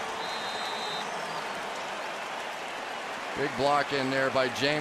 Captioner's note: whistle